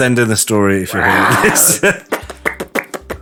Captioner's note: velociraptor impression